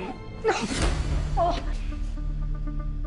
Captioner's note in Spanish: Quejido